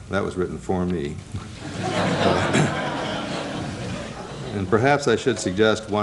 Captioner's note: laughter